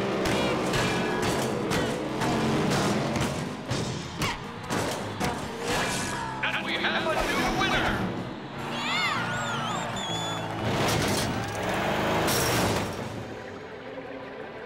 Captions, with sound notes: And we have a new winner! [cheering]